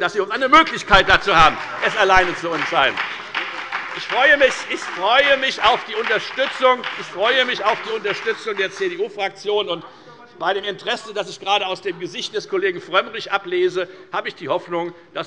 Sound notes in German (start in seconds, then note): 3.3 Beifall bei der FDP